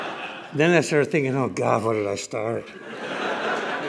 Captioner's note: laughter